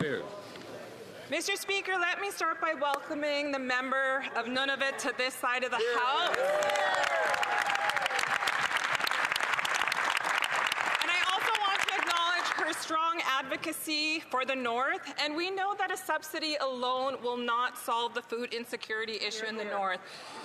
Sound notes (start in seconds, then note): 9.5 some Applause